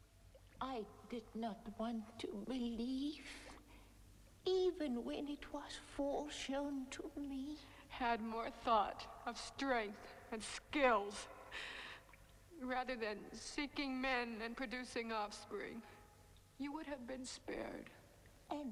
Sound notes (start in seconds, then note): none